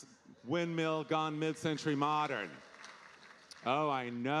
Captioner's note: audience applauding